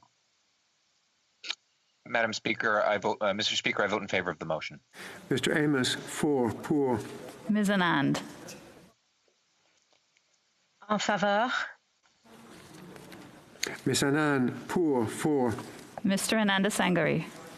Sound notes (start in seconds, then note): 10.4 speaking French